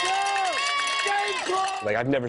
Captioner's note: crowd cheering